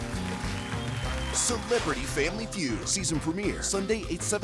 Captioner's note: audience clap